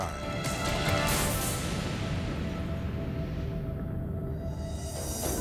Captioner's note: explosion rumbling